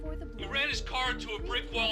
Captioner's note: on phone